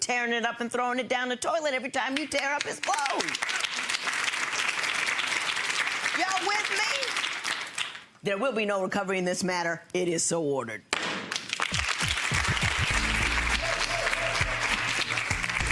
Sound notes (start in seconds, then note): 2.3 audience clapping; 10.8 gavel striking block; 10.9 audience clapping; 11.8 upbeat music